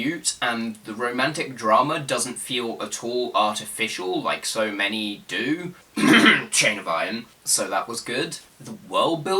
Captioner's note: cough